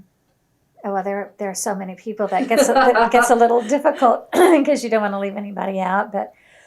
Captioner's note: laughter